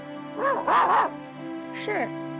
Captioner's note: Arrow barks